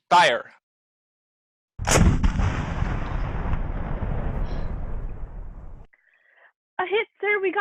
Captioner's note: boom of heavy gun